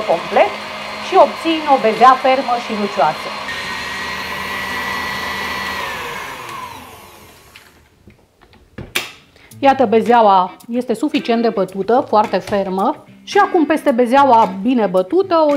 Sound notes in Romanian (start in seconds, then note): 3.4 sunetul mixerului